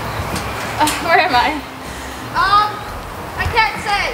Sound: laughs

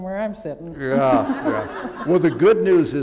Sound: laughter

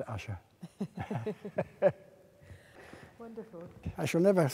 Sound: laughing

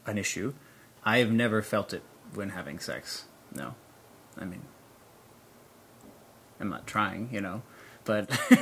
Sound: laughs

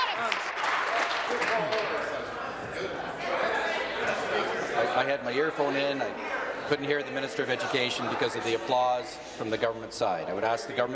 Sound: applause

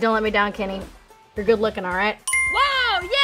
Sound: correct ding noise

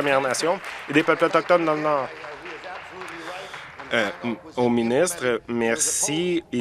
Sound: applause

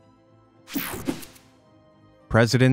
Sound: picture swooshes

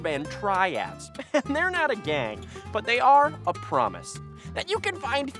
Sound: laughs

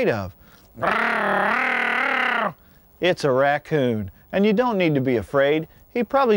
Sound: wildlife call

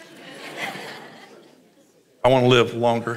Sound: congregation laughs

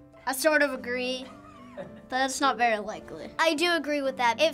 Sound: Finebros laughs

